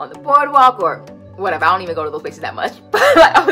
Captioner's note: laughs